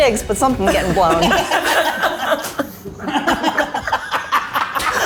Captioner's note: group laughing